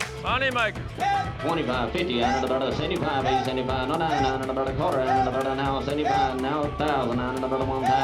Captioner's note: auctioneering; auctioneer speaking